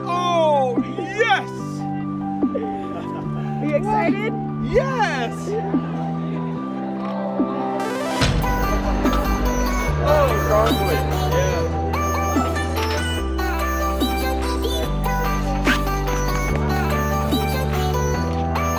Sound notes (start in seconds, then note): 8.2 weights crash; 12.7 energetic electronic music